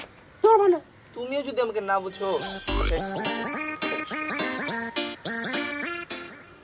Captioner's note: phone Ringing